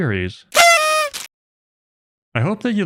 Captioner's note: party horn sound effect